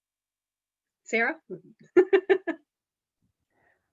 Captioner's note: laughs